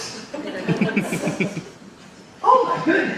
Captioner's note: audience laughs